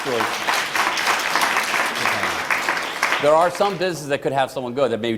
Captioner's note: applause